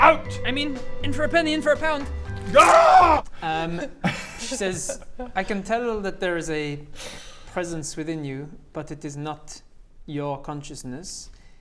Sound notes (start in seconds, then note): 2.9 squish